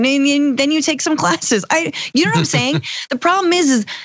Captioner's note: laugh